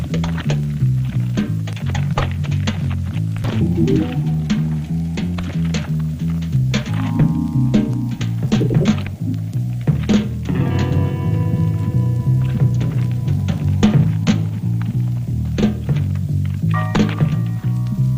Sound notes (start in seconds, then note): 3.5 crowd cheering